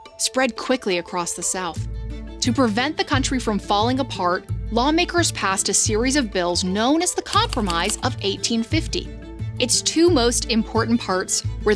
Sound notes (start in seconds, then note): 7.3 keypad clacking